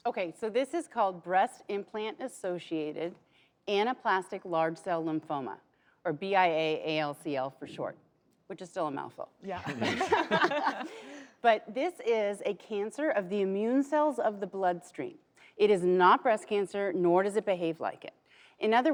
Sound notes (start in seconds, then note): 9.6 laughs